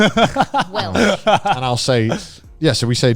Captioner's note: laughing